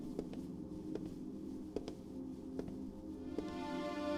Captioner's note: slow Footsteps